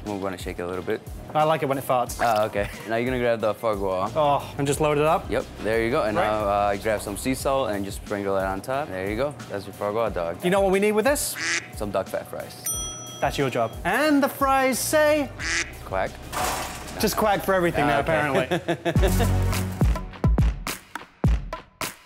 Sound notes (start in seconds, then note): 11.3 quacking; 12.6 bell dings; 15.4 quacking sound effect; 18.0 laughing; 18.9 hiphop music